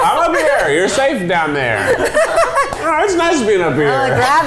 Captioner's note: laughing